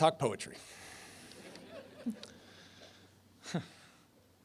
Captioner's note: laughter